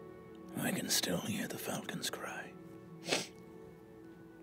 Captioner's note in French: renifle